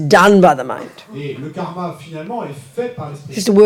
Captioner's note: French